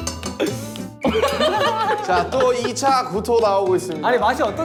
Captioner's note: Semua juga tertawa